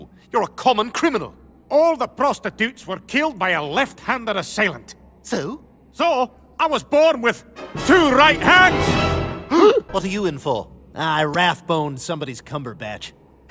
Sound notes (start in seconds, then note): 9.5 both gasp